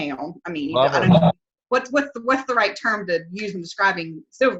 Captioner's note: murmurs